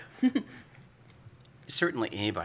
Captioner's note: laugh